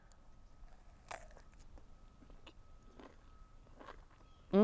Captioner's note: fruit crunching